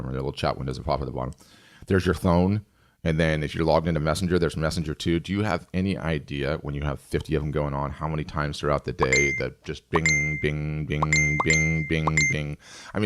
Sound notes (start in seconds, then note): 9.0 bell chimes